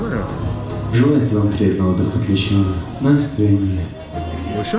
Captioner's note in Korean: 안내 방송